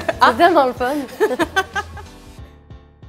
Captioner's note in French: rire